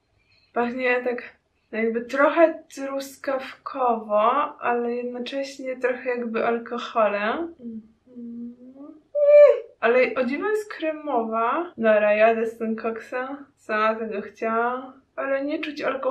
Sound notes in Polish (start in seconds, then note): 8.0 coś tam nuci